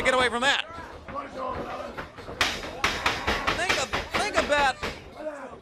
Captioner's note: crowd chatter